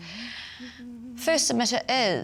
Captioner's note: humming " "